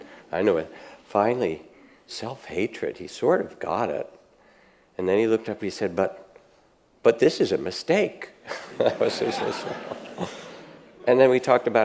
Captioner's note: audience laughs